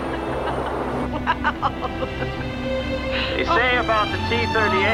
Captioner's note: laughing